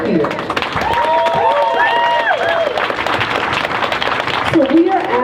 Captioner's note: crowd cheers